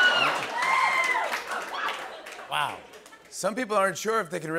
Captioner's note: cheering and applause